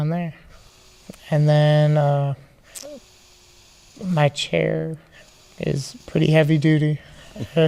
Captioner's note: laughing